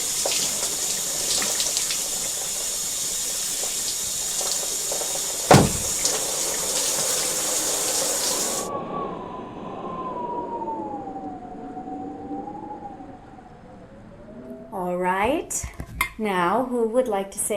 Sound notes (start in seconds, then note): 5.5 fist thuds; 9.3 wind whistling